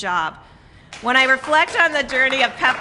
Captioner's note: applause